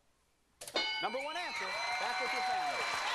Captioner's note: bell dinging